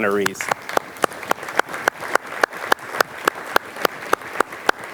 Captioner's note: audience applauds